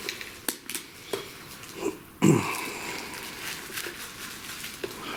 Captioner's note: objects shuffling